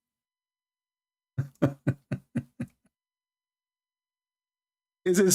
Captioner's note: Ketawa